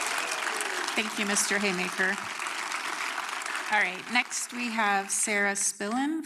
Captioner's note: applause